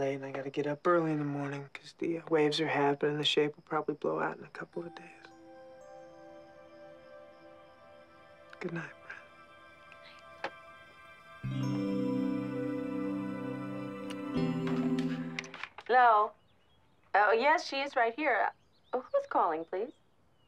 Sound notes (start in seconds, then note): 5.3 gentle music; 11.2 gentle mellow music; 11.2 lip smooches